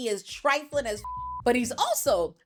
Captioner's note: beep